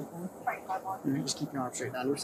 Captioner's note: radio chatter